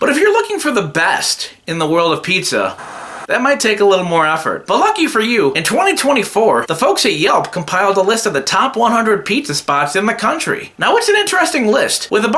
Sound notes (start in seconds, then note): 2.7 TV Static